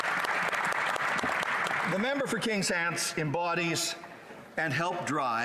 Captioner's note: applause